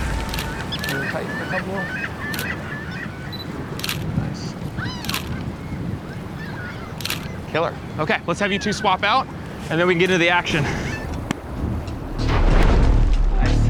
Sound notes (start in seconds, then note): 0.0 seagulls squawking; 3.8 camera shutter clicking